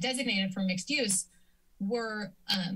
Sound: silence

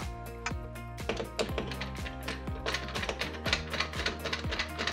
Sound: screwdriver rattling

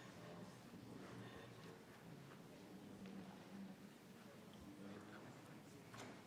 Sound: people continue chattering

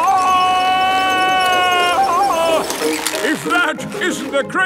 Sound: yelling

